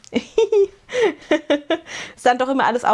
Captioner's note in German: gelächter